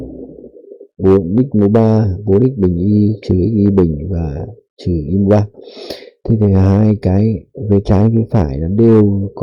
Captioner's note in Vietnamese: khịt mũi